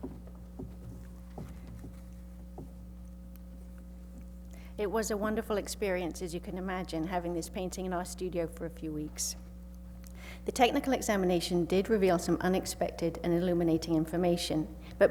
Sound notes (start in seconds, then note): 4.9 voiceover